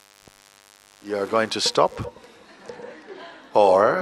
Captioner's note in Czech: smích